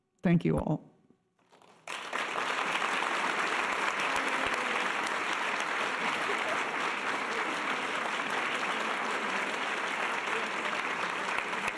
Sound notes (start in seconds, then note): 1.5 audience applause